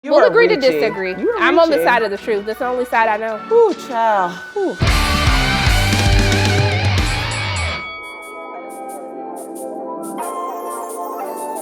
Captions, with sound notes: - We'll agree to disagree. - You are reaching. You are reaching. - I'm on the side of the truth, that's the only side I know. - Ooh, child, ooh. (upbeat music) (bell dings) (light music)